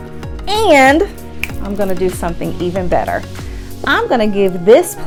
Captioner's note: snaps fingers